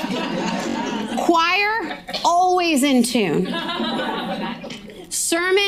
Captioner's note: audience laughing; audience laughing